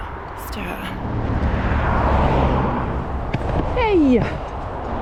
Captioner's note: cars